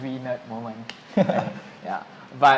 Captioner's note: laughter